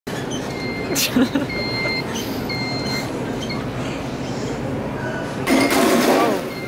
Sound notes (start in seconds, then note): 0.2 mobility scooter beeping; 0.9 giggles; 5.5 crash